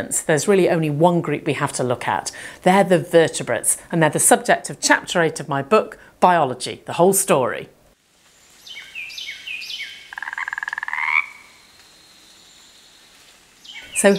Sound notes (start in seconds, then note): 8.6 birds chirping; 10.4 frogs croaking